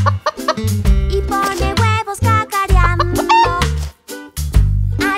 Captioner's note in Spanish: Sonido de gallina; Sonido de gallina